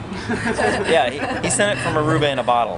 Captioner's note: laughter